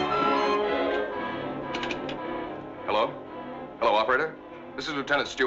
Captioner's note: receiver rattling